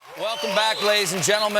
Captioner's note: cheers and applause